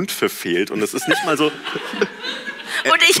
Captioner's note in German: Gelächter